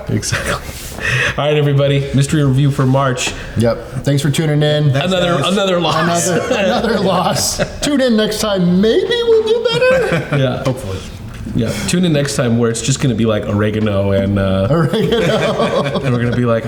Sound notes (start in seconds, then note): 7.6 all laughing